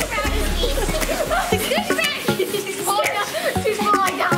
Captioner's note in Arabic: يضحك